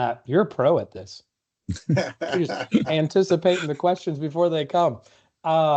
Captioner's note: laughter